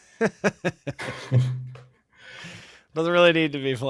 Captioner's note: laughter